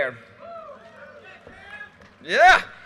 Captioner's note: audience cheers and applause